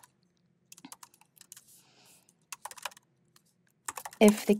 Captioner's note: keyboard clacking